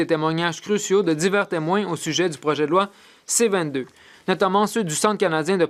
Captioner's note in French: voix de l'interprète